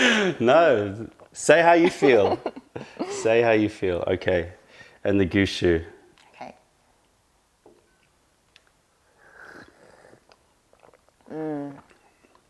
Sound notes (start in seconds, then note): 9.2 sips tea